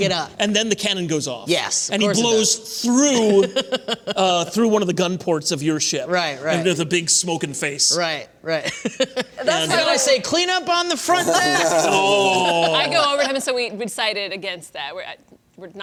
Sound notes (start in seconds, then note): 3.2 laughter; 8.7 laughs; 11.2 laughter